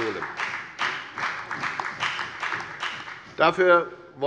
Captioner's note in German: Beifall bei der FDP